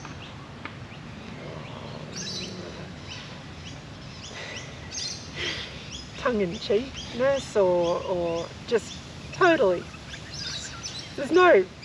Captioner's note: laughs